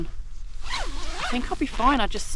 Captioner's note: zipper